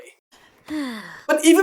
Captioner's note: sigh